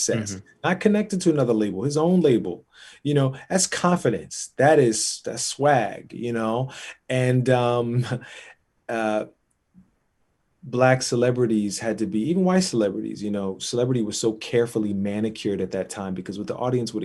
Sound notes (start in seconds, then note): 8.3 laughs